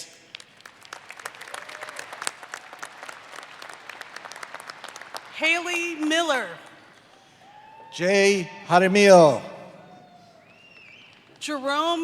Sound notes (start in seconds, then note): 10.0 applause